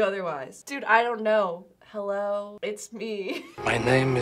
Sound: laughs

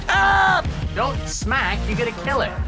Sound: wails

